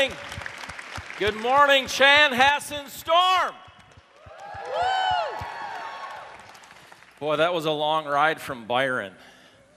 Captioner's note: applause